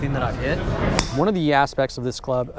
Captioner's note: golf club smacking